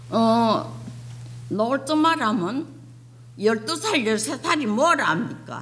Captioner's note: speaking foreign language